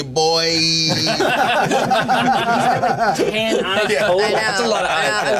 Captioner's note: laughter